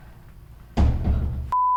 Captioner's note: door bang